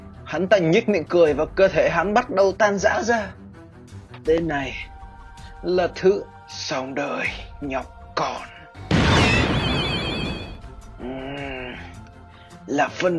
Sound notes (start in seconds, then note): 8.9 boom